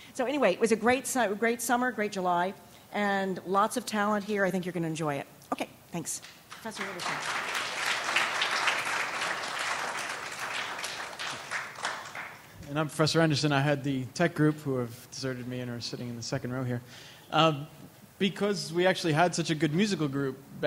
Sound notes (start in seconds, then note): 6.4 applauding